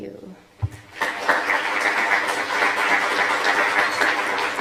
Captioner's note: applause